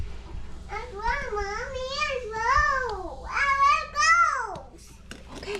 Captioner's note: toddler gibberish